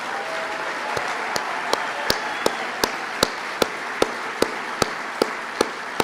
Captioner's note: applause